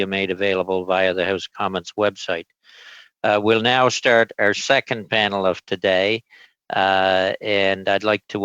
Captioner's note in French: voix de l'interprète